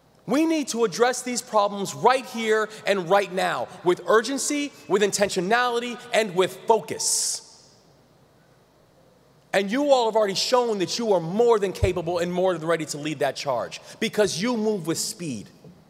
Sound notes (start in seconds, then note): none